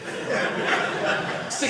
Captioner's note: audience laughing